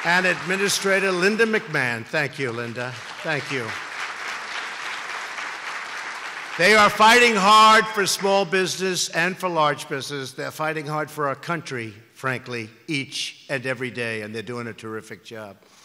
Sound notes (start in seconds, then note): 4.0 applause